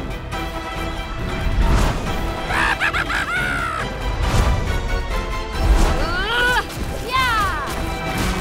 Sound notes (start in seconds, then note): 2.4 maniacal Laugh